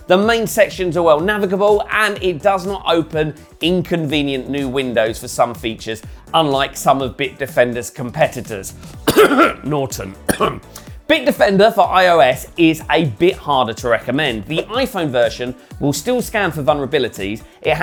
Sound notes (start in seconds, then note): 9.0 coughs